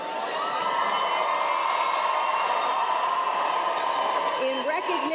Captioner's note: cheers and applause